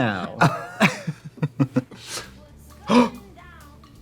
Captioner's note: Trixie laughs; gasps